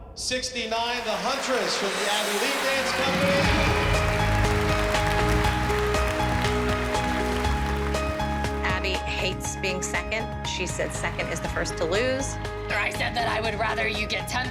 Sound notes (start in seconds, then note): 3.4 applause